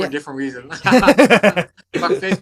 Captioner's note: both laughing